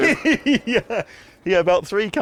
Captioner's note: laughs